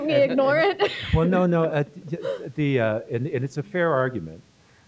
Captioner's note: laughter